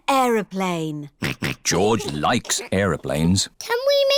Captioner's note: snorts